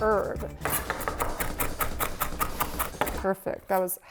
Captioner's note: knife cutting